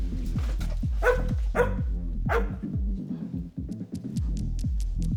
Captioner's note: dog barking; paws tapping